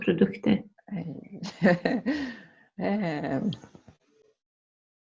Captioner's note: laughing